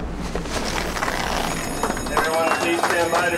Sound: alarm ringing

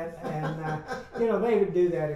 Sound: laughs

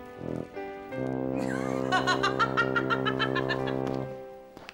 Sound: laughing

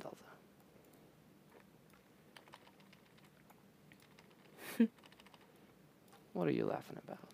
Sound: chuckles

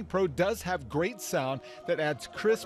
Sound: sound from TV

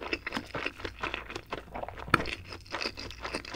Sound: chewing nice and slow😁

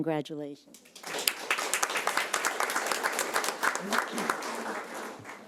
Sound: audience applauding

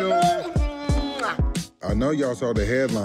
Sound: lips smacking

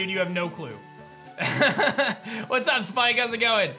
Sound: laughs

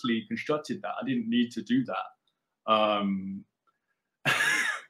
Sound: laughs

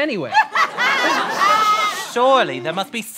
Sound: sobbing

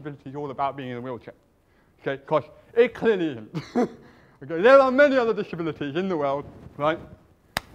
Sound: laughs

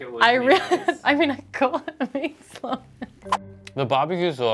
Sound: chuckling

